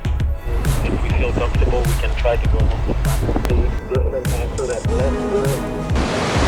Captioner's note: water splashing